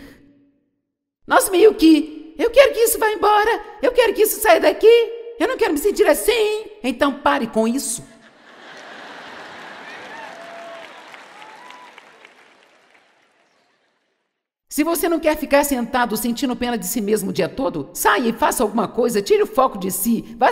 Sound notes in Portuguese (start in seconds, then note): 8.2 audiência ri